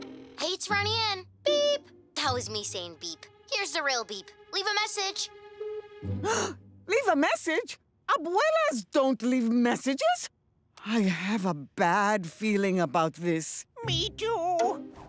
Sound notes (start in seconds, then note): 0.2 voicemail; 6.2 gasp